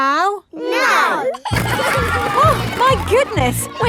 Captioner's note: giggling